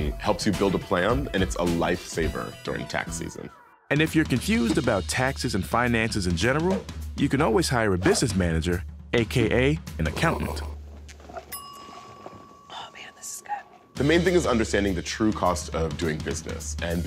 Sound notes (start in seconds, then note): 10.8 slurping; 11.5 bell chimes